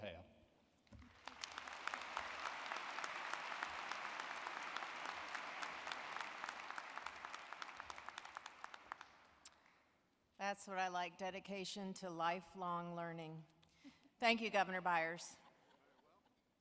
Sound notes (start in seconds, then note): 5.5 applause